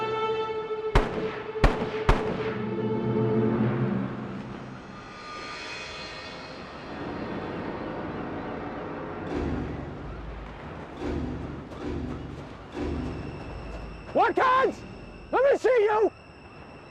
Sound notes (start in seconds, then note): 0.9 guns bang; 3.5 tense dramatic music